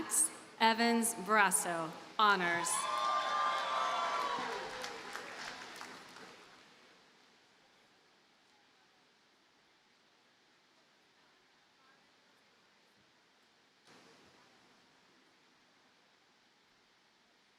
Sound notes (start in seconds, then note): 2.5 audience cheers and applauds